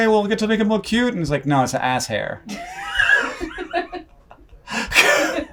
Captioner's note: laughs